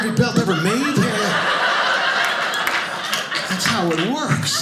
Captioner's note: audience laughing